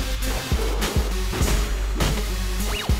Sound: gun shot

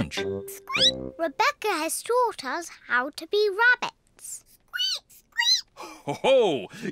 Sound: squeaks; peppa and george squeak; laughs

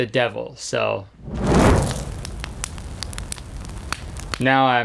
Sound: flames roaring

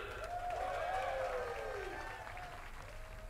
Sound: cheering and applause

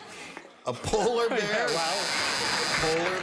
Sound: chuckles

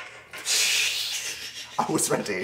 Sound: both laugh

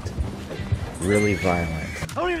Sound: hooves thudding; horse neighs

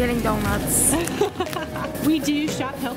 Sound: laughs

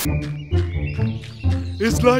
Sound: birds tweeting

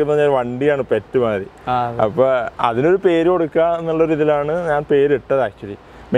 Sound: car

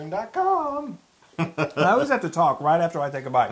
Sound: laugh

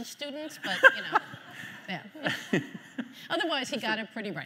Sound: host laughing

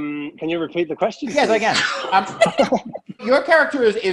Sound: cast laughing

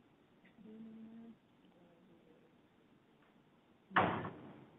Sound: faint chatter

